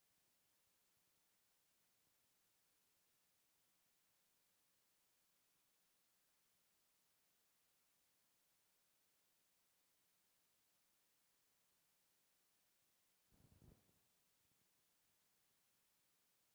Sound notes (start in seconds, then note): none